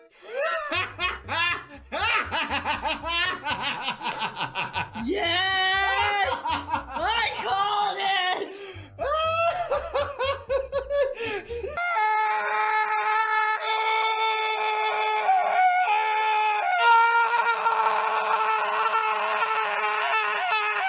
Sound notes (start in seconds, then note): 0.1 starts laughing heartily; 5.4 excitedly; 9.1 continues laughing; 11.7 Jack screams throatedly for forever